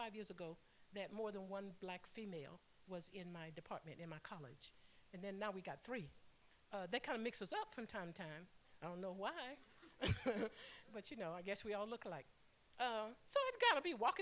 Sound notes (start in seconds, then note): 9.7 laughter